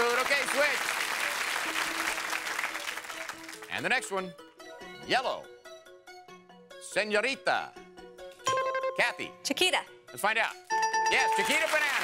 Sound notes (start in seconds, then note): 8.5 bell rings